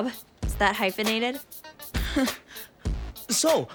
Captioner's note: laughs nervously